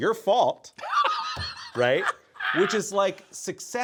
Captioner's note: Brennan laughing